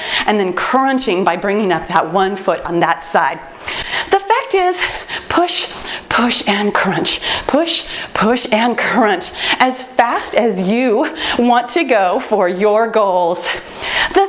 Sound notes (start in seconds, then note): 4.3 timer beeps